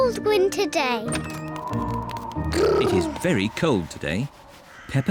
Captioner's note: wind whistles